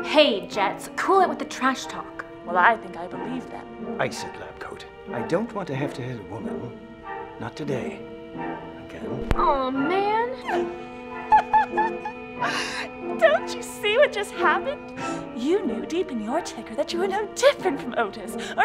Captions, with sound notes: - Hey, jets, cool it with the trash talk. - Well I think I believe them. - Ice it, lab coat, I don't want to have to hit a woman. Not today. Again. - Aww, man. (Shelley laughs) Don't you see what just happened? You knew deep in your ticker that you were no different from Otis,